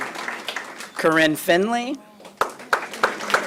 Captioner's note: applause